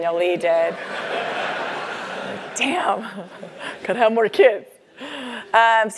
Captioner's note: laugh